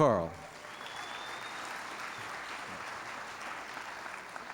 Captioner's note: applause